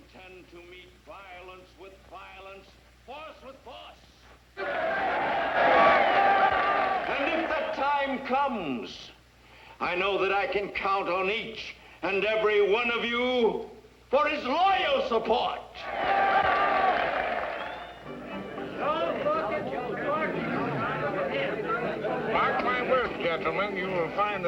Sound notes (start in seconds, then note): 4.6 cheers and applause; 15.8 cheers and applause; 16.5 up-tempo music plays